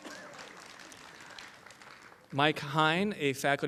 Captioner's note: applause